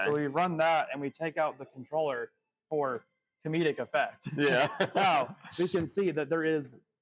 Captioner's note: laughs